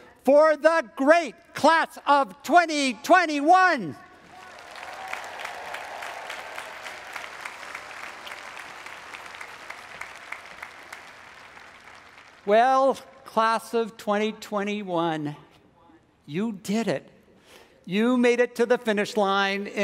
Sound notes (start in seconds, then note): 4.2 audience applauds; 4.2 audience cheers